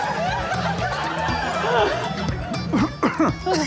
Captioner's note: laughter